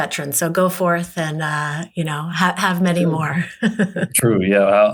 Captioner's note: chuckles